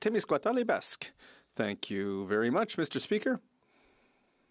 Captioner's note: speaking French